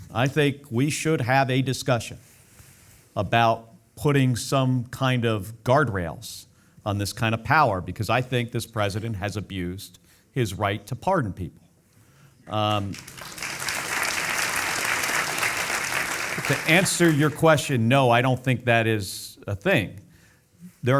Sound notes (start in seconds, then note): 12.5 audience applauding